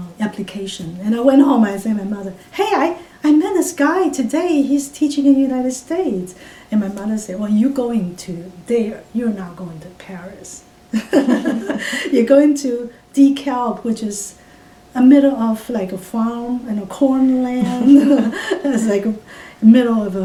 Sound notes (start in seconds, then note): 11.0 all laugh; 17.6 all laugh